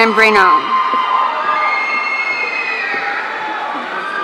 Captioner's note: audience cheering